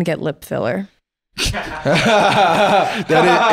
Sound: laughing

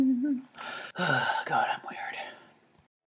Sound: sighs

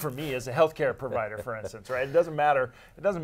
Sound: laughs

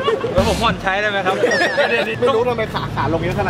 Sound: chuckles; laughs

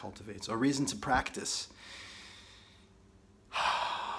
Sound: sighs

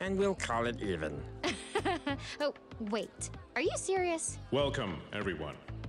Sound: chuckles

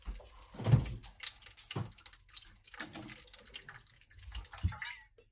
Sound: water dripping

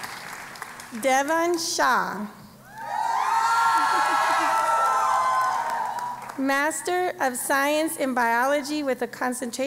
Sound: applause; cheering

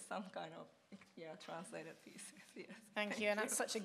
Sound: chuckles

